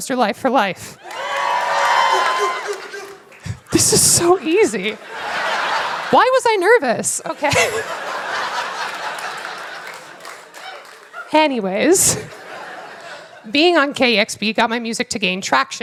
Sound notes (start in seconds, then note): 1.8 laughter